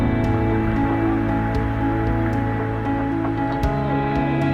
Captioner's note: river rushing